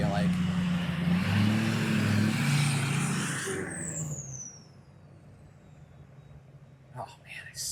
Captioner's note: large Truck Engine Revving